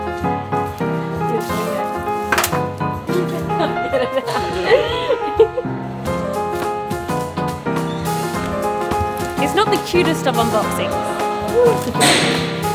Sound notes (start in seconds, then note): 2.9 laughing